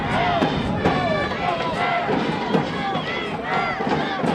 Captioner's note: crowd shouting